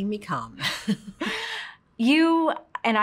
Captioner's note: both laugh